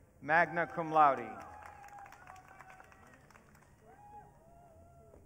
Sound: audience cheering

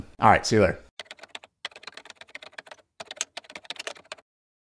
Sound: keyboard clacking

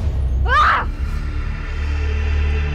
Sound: Carl yelping; sinister music

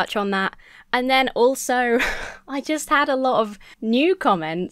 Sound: sighs

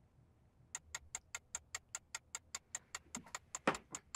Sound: clock ticking

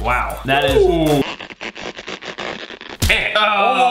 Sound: stretching sound; snapping sound

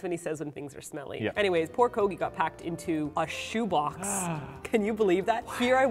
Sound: gasp

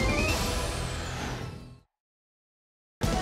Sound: whoosh

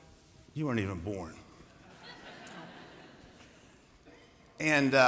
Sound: laughter

